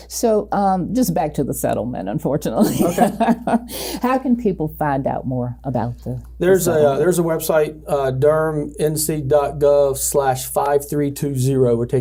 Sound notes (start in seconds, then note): 2.6 laughs